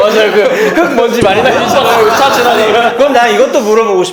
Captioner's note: coughing